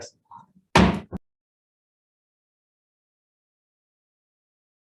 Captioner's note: gavel pounding